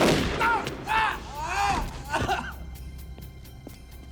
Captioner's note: drug runner groaning; tense music